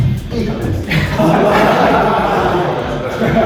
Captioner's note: laughs